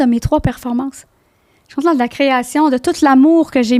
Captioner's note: in french